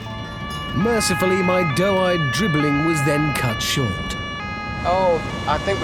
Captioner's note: police siren